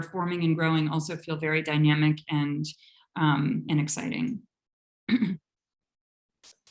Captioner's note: clears throat